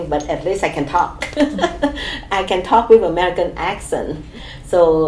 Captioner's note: laughs